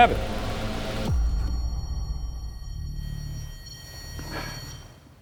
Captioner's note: REM-pod beeping